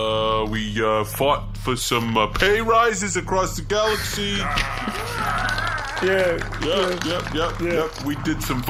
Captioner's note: applaud